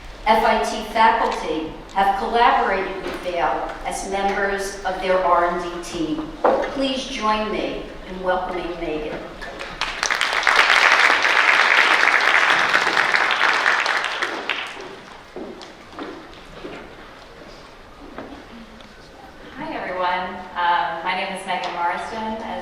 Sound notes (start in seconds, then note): 9.4 applause